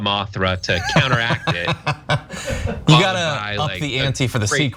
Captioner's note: laugh